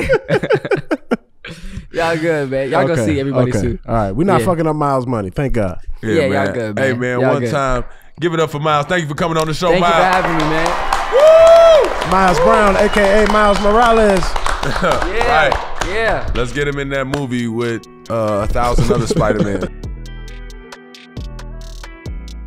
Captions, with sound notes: (all laughing) - Y'all good man. Y'all go see everybody too. - All right we not fucking up Miles money. Thank God. - Yeah y'all good. - Hey man, one time give it up for Miles. Thank you for coming on the show Miles. - Thank you for having me man. (audience applauding) - Woo. Miles Brown, aka Miles Morales, right. - Yeah. - Let's get him in that movie with thousands other Spider-Man. (upbeat music)